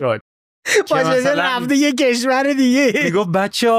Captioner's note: laughs